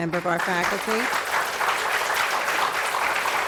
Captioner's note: applause